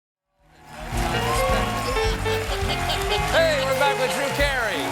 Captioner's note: applause